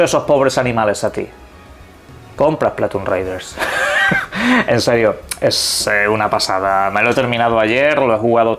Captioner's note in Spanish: risas